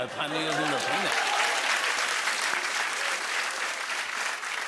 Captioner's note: cheers and applause